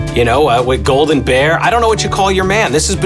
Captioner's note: speaks faintly